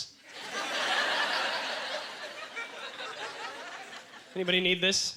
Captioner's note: audience laughter